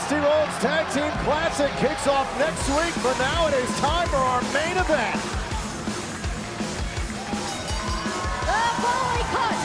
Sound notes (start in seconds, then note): 6.9 bell ringing